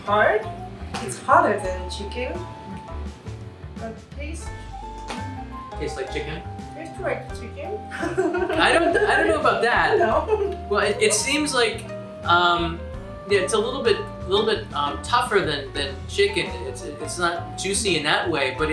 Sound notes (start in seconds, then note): 7.9 laughs